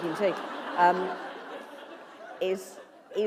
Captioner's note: laughter